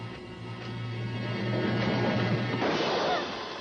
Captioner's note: gunshot